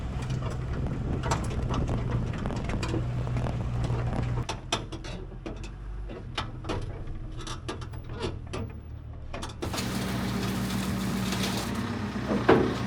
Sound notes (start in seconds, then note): 1.6 trailer clanking; 9.6 forklift rumbling